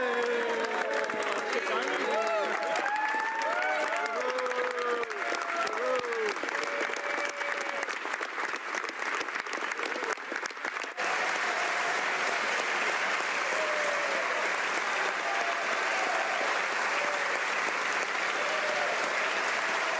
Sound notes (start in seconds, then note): 3.4 some Applause